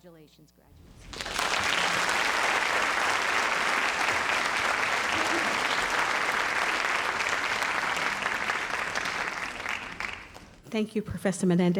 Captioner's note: audience applauding